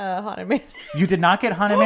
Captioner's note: laughs